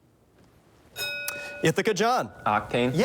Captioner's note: bell dings